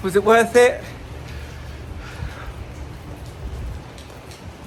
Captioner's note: rain pattering